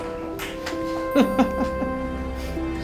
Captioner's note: laughs